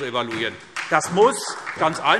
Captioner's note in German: Beifall SPD